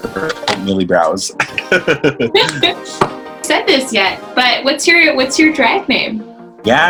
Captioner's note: both laugh